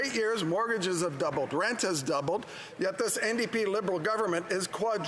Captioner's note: speaking French